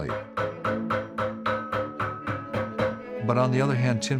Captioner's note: hammering